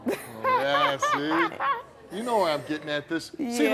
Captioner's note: laughs